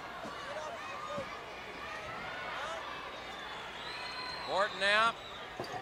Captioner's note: crowd chatter